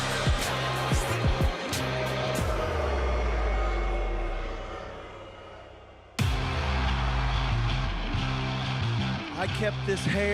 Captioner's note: crowd boos